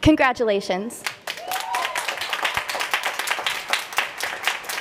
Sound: applause

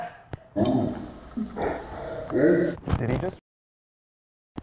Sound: slow motion speech

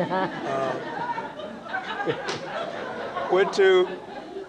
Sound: laughter

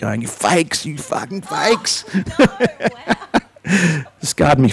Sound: laughs

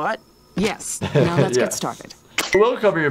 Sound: laughs

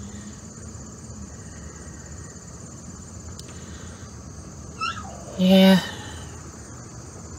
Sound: Ella barks and whimpers

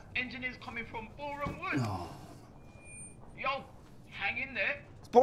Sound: sighing

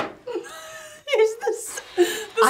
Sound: chuckling

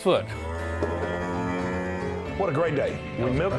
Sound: cow mooing

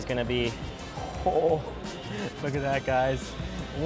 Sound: laughs

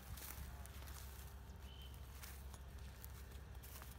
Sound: coach's whistle from nearby practice

